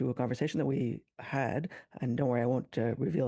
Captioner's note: speaking French